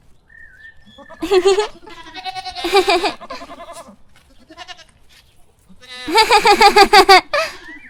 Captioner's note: goats and sheep bleating; Acela giggling